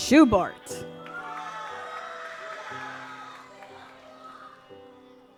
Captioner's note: audience applauds